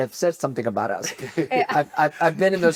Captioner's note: laughs